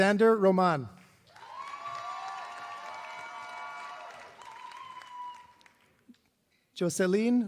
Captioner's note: applause